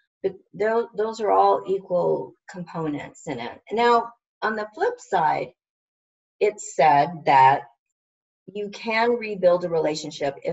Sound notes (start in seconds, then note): none